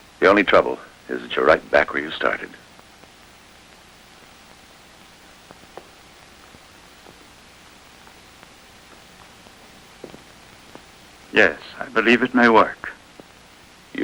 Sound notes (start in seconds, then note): none